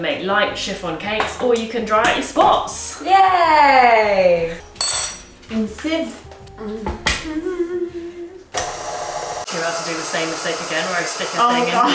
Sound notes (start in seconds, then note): 5.3 humming; 7.9 mixer whirring; 11.8 laughs